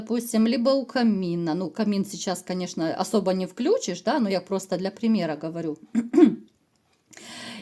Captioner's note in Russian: откашливается